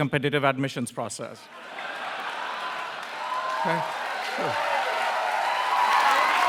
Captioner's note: applause